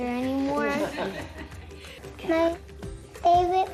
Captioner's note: laughing